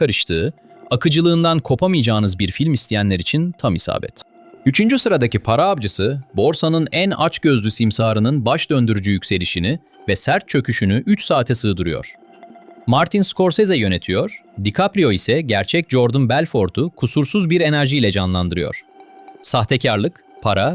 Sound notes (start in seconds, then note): 12.8 thoughtful